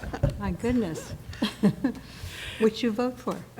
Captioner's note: laughter